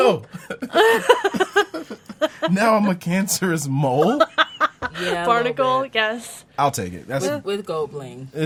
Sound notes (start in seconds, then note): 0.0 laughs